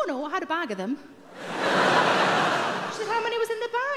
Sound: audience laughs

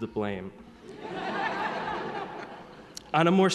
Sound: audience laughing

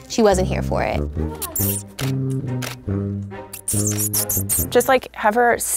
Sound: kissing teeth

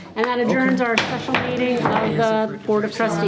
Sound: gavel bangs

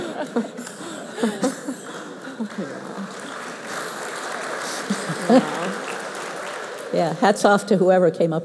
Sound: laughter; applause

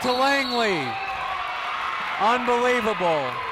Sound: people cheering in the crowd

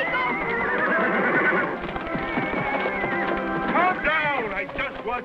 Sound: horse neighs

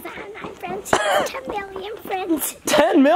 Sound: laughs

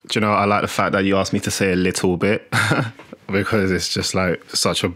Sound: chuckles

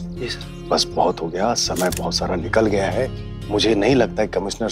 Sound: camera clicking

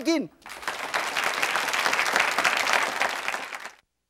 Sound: audience applauds

